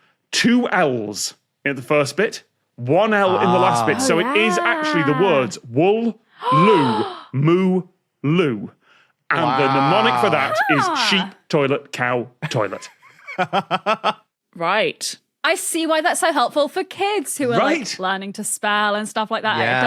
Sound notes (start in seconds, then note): 13.2 laughs